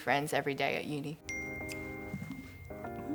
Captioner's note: ping